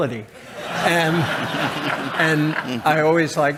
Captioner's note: chuckles